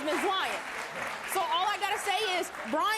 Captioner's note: audience clapping and cheering